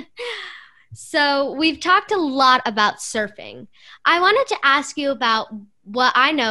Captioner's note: laughter